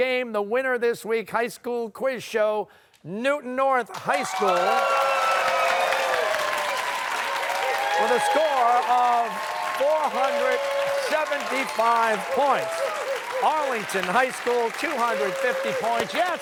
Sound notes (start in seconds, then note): 5.0 applause